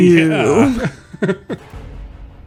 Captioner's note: laughs